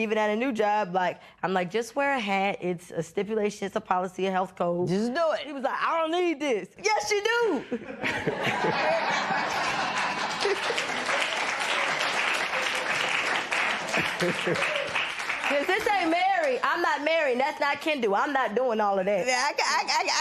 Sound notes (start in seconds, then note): 7.6 laughter; 10.9 laughter and applause